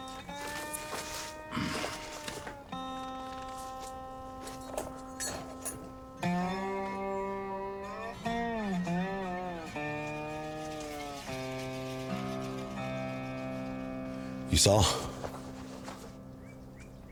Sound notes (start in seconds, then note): 1.3 Bill clears throat; 6.4 light dramatic music